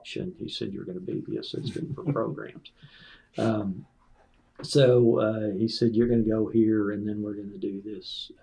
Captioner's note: laughter